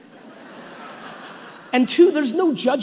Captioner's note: audience laughing